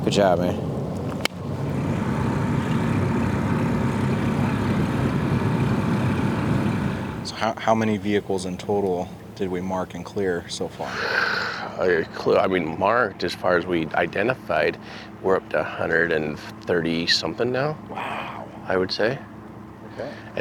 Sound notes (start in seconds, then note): 1.3 hands clap; 2.4 boat engine humming; 10.4 scoffs